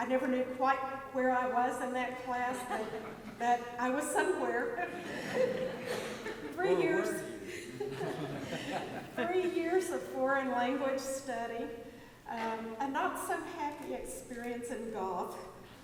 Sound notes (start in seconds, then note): 4.9 audience laughs; 9.1 laughs